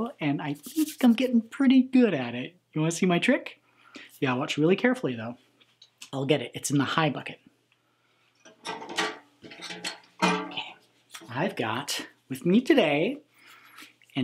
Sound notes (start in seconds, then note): 9.4 bucket clangs